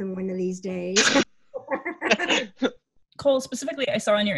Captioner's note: Amy and Cole laughing